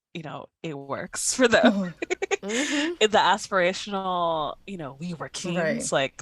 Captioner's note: laughter